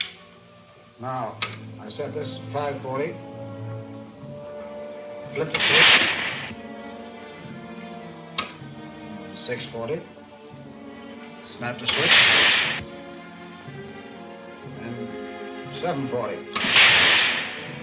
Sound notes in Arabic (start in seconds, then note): 11.8 إطلاق نار عدواني; 16.6 إطلاق نار بشكل عدواني